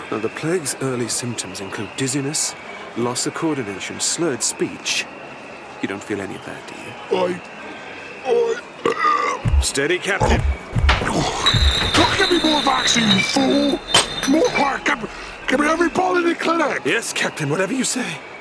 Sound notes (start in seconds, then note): 8.3 burp; 10.2 glasses clinking; 13.9 glass crash